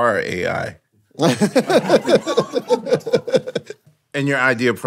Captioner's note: Lin-Manuel laughing